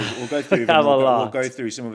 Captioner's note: chuckles